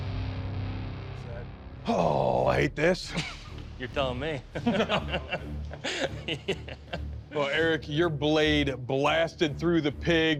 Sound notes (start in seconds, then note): 4.5 laughter; 4.5 chuckles